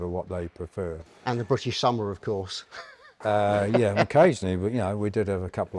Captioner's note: laughs